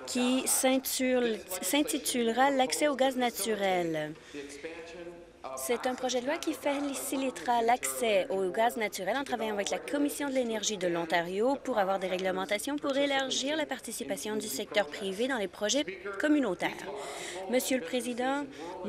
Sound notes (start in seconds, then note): none